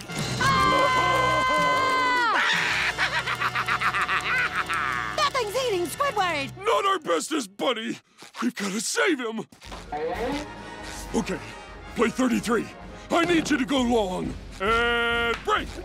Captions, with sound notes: [screaming] [laughing] That thing's eating Squidward! Not our bestest buddy. We've got to save him. Okay, play 33. I need you to go long. And... break.